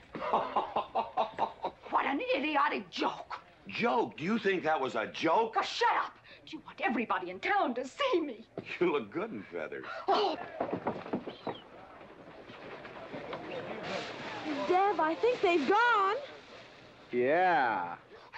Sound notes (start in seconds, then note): 0.2 GW laughing hard; 10.2 pouting loudly; 13.7 hay rustling